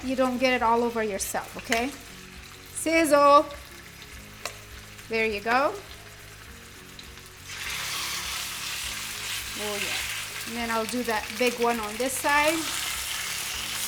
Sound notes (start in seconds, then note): 3.9 oil sizzles